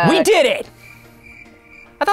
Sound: crickets

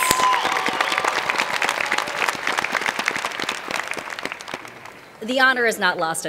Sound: cheers and Applause

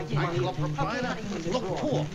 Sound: chatter

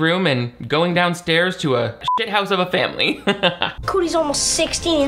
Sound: beep; laughs

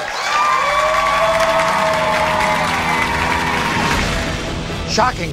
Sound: cheering; audience applauding

